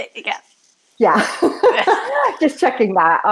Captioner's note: laughing